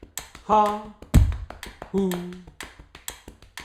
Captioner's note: tapping and ticking sound